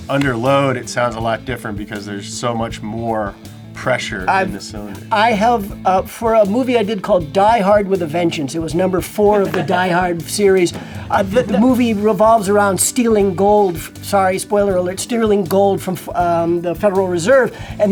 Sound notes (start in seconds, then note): 9.1 producer laughs